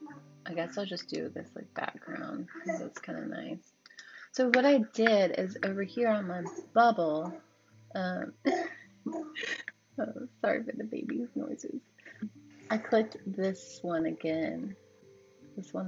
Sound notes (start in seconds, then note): 6.3 son makes baby noises